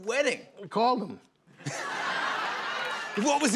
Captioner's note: laughter